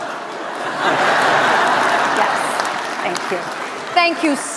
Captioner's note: laughter